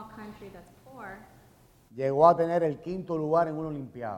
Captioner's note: speaking in Spanish